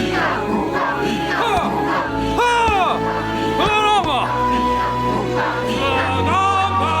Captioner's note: Moses shouting